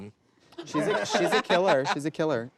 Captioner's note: laughs